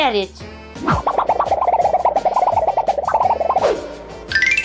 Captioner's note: wobbling noise